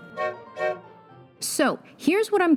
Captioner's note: train hoots